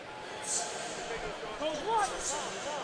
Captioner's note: pa announcement